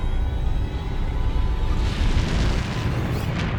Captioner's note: deep rumble